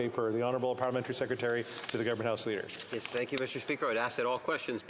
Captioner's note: speaking French